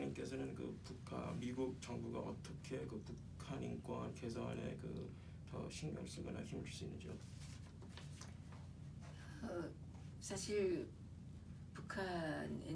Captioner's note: speaking korean; speaking korean